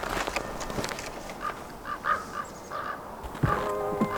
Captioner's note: ravens cawing